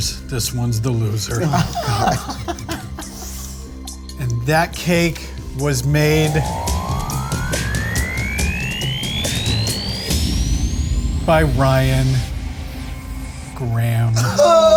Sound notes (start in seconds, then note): 1.3 Ryan laughs; 7.3 suspenseful music